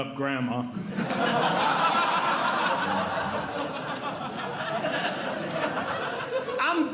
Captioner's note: audience Laughing